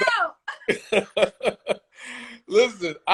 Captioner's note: laughs